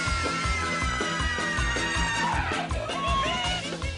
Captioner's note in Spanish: Todas gritan